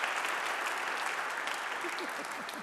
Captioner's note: audience clapping